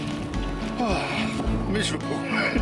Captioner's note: sighs